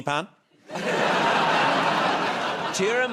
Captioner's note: laughter